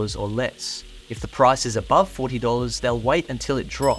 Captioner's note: steak sizzling